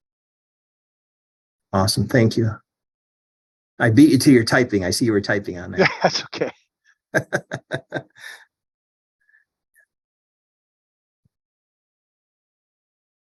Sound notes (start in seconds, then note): 7.1 chuckles